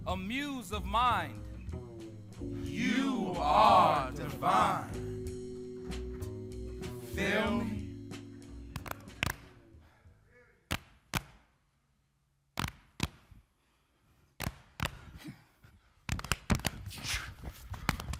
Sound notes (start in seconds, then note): 8.7 hands tapping; 14.9 group panting